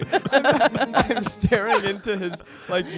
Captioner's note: everyone laughs